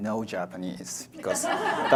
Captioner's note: audience laughs